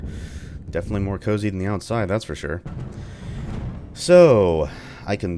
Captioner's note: thunder